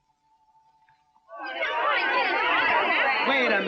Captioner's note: angry chattering